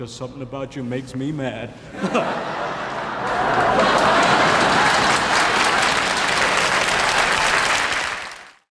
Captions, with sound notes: There's just something about you makes me mad." (audience laughing) (audience clapping)